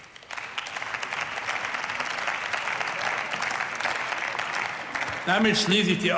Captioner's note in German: Beifall